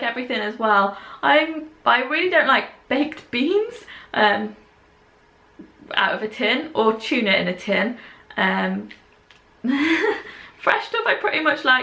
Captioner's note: laughs